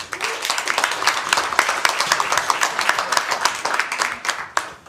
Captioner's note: applause